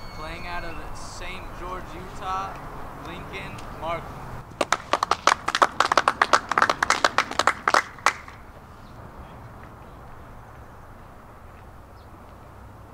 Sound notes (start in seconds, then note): 4.6 applause